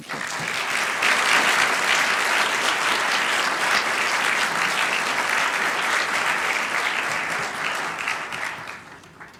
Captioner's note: applause